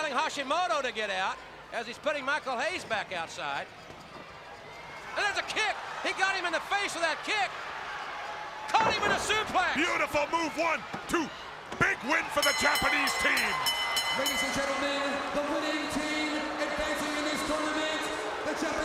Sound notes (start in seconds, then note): 12.3 bell ringing